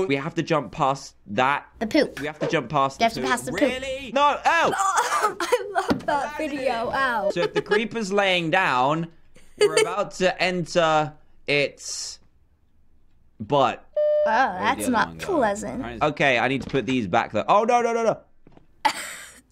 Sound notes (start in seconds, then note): 5.4 groans; 14.0 beep; 18.9 laughs